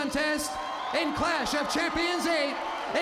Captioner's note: crowd cheering